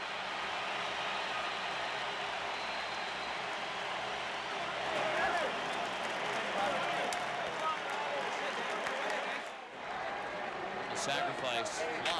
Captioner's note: applause